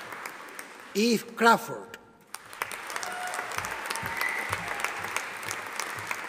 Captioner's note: audience applauding